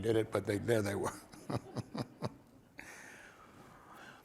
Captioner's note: chuckles